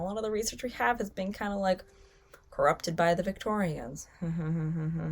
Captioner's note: laughs